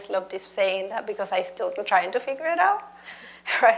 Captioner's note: laughs